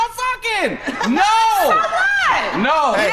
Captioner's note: laughs